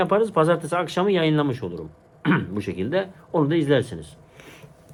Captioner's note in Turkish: boğazını temizler